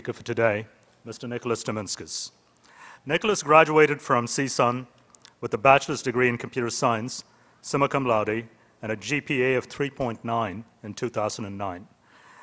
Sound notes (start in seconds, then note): none